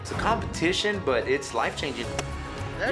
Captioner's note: chops wood